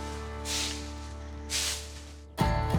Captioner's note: sweeping